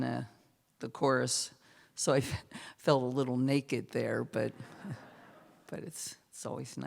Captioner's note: laughter